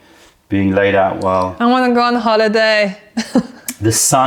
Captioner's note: laughter